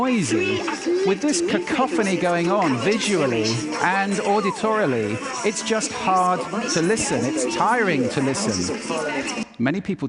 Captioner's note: loud chatter plays; loud chatter stops